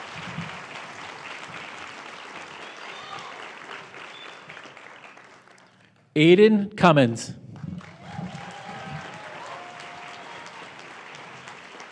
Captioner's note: applause